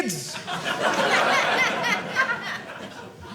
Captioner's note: audience laughing